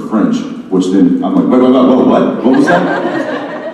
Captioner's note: stammering